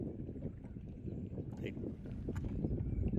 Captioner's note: wind